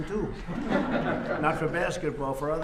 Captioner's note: laughter